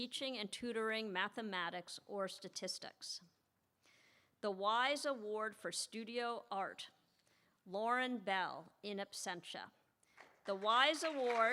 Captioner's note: applause